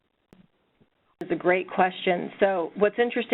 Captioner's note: voiceover